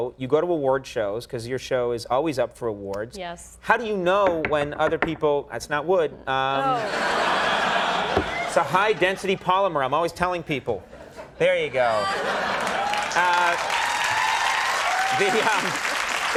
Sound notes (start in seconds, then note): 4.2 Cynthia tapping desk; 6.6 audience laughing; 11.9 audience applauding